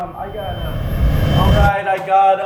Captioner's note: ringing noise